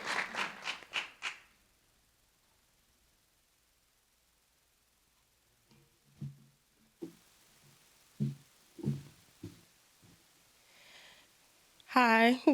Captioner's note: applause